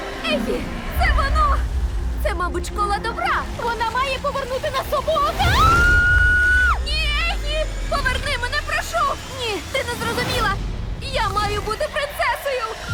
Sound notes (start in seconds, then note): 5.4 screams